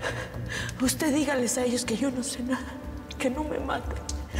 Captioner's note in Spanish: Sollozos